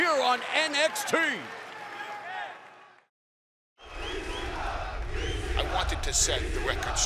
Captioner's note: crowd cheering